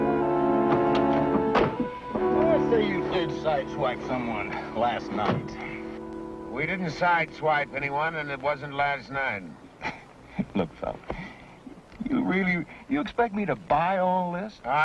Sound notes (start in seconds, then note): 0.6 door thuds close